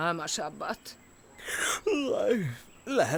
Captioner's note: yawning